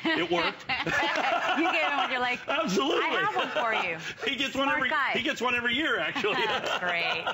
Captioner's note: laughter